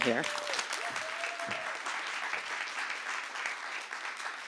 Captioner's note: applause